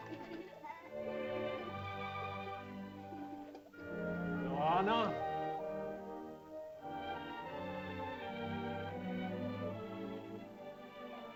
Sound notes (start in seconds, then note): 0.0 soft music; 4.3 man calls out to girl; 6.6 soft music